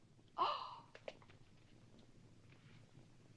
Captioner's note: gasps